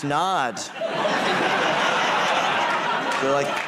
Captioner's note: laughter